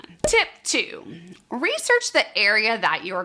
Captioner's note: cork popping